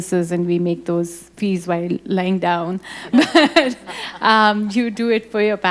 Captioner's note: laughs